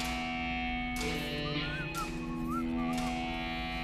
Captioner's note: whistles